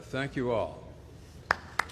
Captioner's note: applause